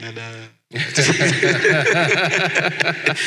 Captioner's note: laughs